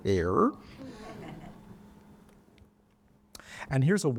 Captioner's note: audience laughing